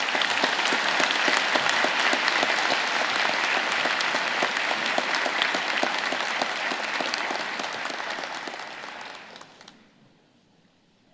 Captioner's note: applause